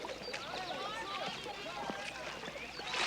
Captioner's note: indistinct chatter